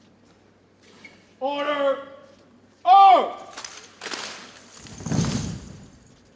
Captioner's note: metal clicks; boots thump